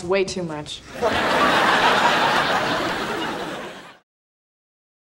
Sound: audience laughing

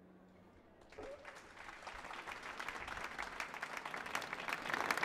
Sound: applause

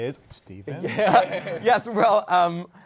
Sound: laughter

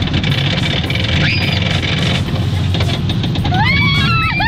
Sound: shrieks

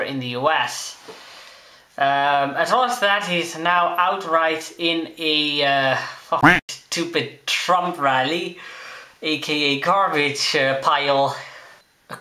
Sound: quack

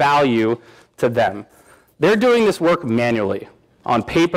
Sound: none

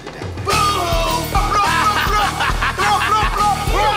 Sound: laughs

